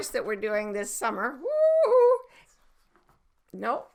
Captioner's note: whooping